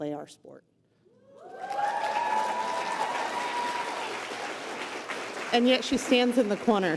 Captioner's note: applause